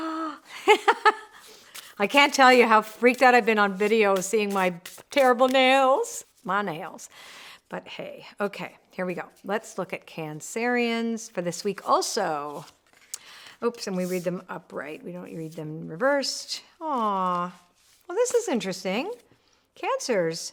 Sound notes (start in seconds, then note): 0.0 laughs